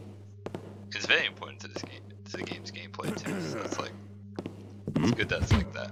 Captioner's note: guard coughs; Blackjack thuds